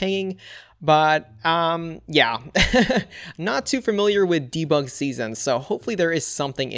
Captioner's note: laughs